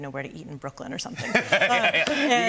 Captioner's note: laughs